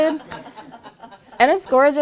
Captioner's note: laughter